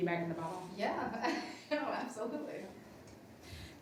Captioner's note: laughs